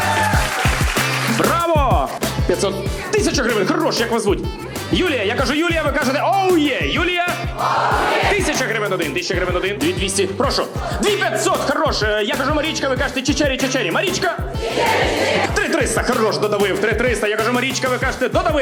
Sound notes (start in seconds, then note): 7.5 audience shouts